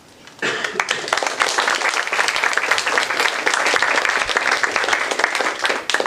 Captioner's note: applause